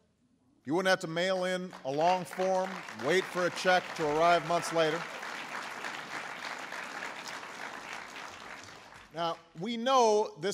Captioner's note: applause